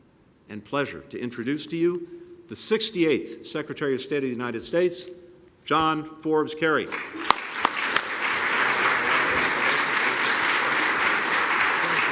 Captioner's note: applause